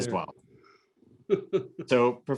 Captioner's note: laughs